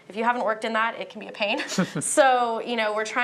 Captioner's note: laughter